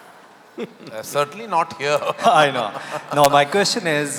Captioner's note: laughter